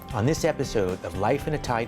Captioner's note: voiceover